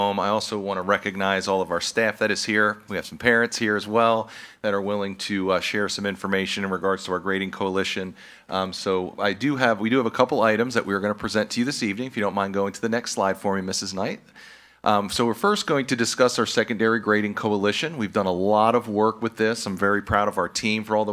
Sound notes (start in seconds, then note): none